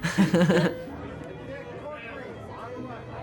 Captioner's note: laughter